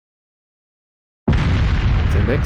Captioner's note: railway gun fired in the distance